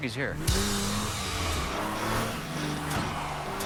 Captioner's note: engine revving, tires squealing